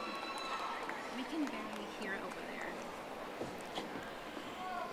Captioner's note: audience applauding